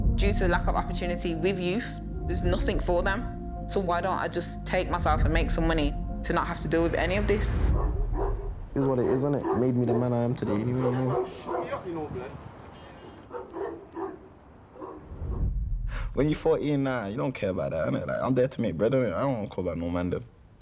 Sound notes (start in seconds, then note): 8.8 dog barking; 13.0 dog barking